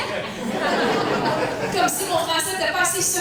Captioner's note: laughs